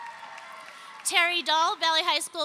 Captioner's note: audience cheering